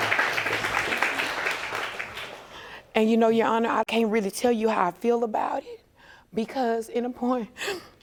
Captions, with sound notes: And you know, Your Honor, I can't really tell you how I feel about it. Because, in a... (SOBBING)